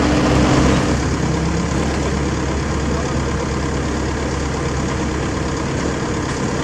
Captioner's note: engine